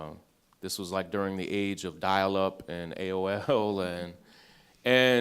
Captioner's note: laughs